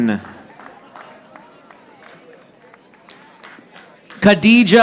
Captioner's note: audience applauding